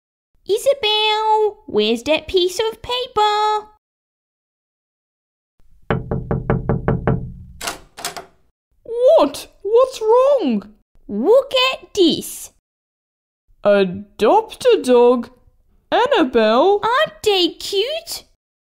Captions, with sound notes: Isabelle, where's that piece of paper...? (Knock! Knock! Knock!) What?! What's wrong? Look at this! Adopt-a-dog? Annabelle... Aren't they cute?